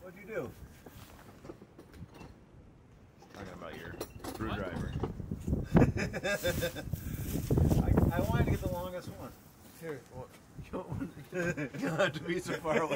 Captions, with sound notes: - What'd you do? - He's talking about your screwdriver. - (laughing) I wanted to get the longest one. - Here, you don't have to be so far away.